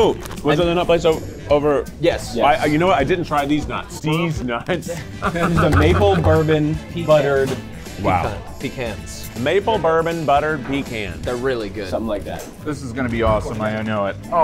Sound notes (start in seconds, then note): 5.0 laughing